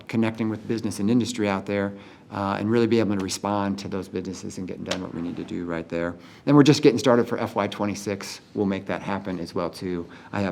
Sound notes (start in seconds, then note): none